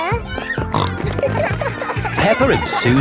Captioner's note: snorting